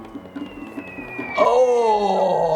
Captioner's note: groaning; missiles whooshing